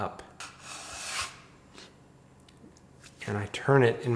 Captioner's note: bench scraper scraping